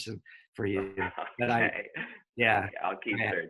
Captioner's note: chuckles